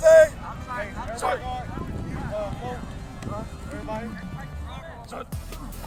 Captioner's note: indistinct chatter